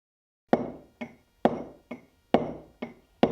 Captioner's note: chisel cutting stone